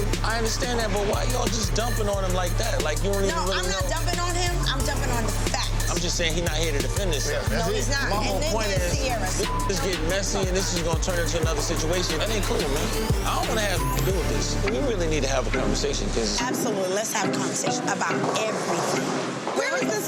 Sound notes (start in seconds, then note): 9.6 beep; 14.2 beep